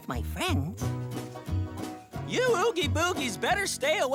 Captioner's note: none